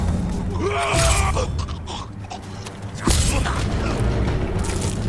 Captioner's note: grunting; yelling; grunting